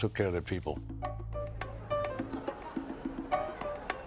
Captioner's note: hubbub